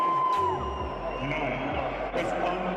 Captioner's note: crowd cheering